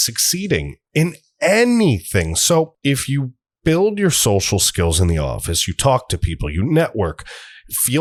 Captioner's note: deep breath